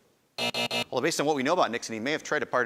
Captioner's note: buzzing